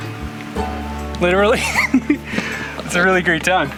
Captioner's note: laughing